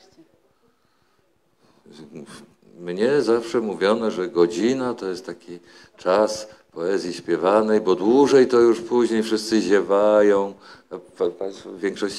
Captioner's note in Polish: śmiech